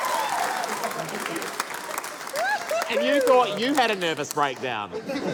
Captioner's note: cheering, applause